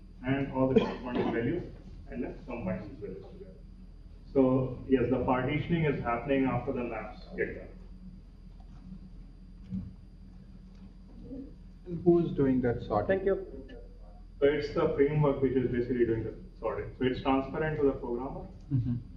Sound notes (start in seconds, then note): 8.0 pause